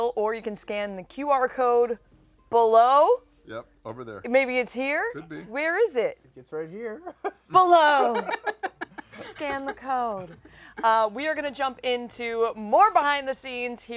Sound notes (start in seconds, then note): 7.0 laughter